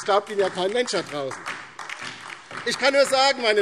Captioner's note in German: Beifall DIE LINKE und vereinzelt SPD